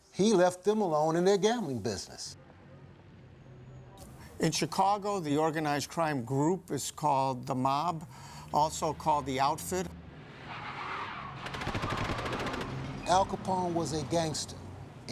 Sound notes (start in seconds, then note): 10.3 tires squealing, gunshots